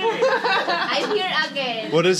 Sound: laughter

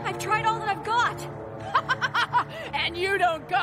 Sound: laughing

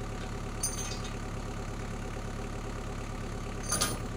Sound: chain rattles

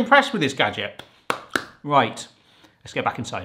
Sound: claps

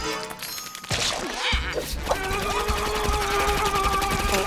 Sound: Kyler grunting

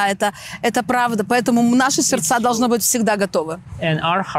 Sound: speaking in foreign language

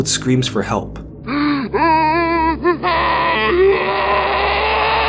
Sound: zombie moaning

